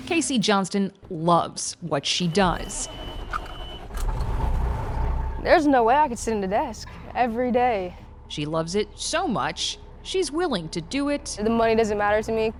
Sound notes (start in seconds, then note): 3.3 truck engine starting